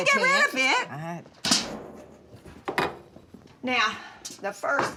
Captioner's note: pie tin clatters